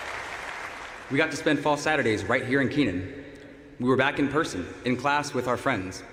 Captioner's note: applause